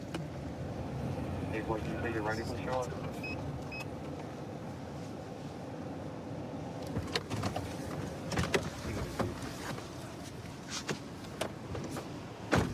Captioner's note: indistinct dispatch speech